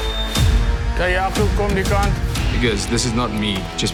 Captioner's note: timer chimes; Morne speaking in foreign language